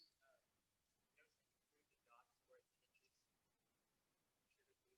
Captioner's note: student speaking quietly